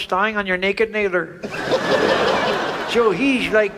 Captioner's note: audience laughs